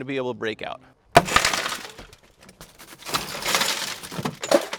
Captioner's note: glass shattering